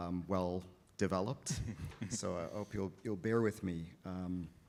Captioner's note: chuckle